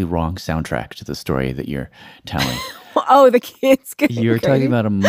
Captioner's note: laughs